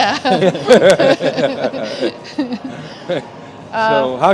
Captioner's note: laughter